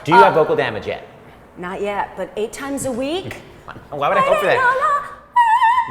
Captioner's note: vocalizes